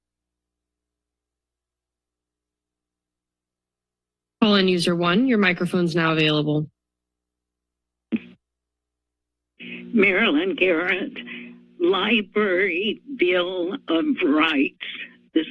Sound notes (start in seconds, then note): 0.0 silence; 6.9 silence